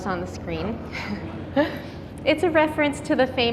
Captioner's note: chuckling